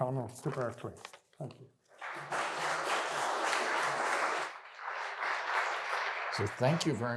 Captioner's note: applause